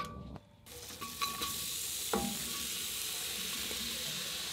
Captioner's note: onions sizzling